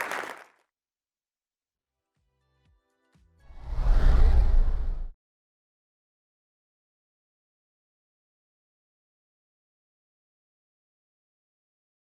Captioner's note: applause